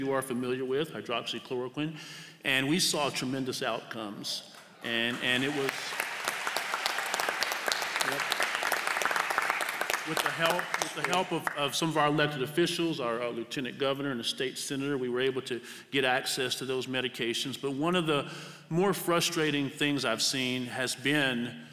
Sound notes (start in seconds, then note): 4.9 applause